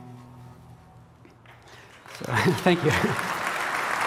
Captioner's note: applause